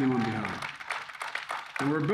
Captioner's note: applause